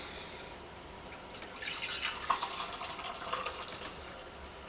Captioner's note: coffee pouring